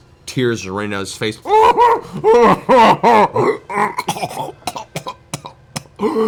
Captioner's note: muffled sobbing and coughing